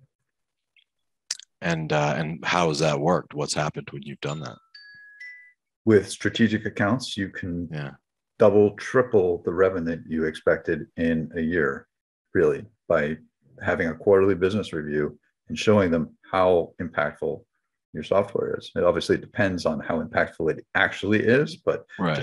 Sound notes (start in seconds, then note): 4.2 electronic bell trills